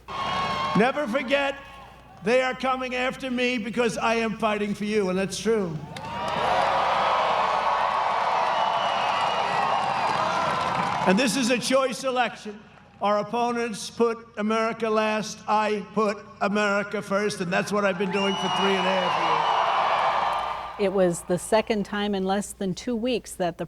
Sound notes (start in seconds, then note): 5.5 audience cheering